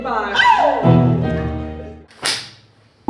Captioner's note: scream